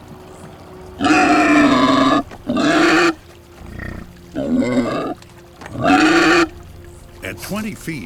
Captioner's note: Demastosuchus bellows